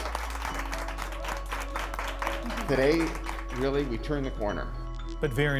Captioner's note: applause